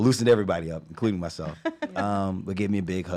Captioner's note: laughs